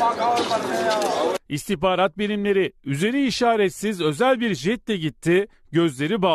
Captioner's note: Turkish